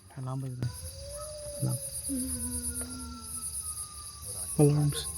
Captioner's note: distant alarm